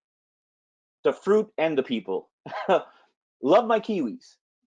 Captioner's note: laughs